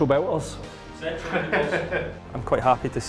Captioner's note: laughter